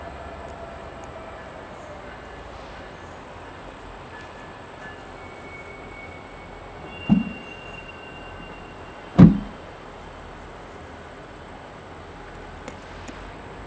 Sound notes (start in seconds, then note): 4.2 wind blowing